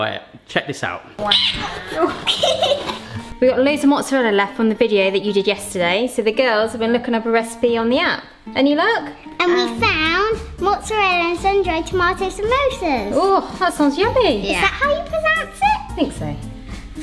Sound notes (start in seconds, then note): 1.3 laughing